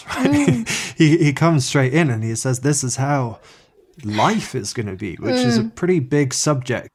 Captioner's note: he laughs